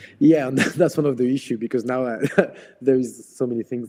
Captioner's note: laughs